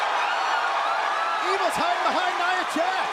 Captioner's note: crowd cheering